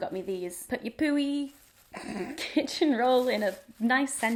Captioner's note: laughs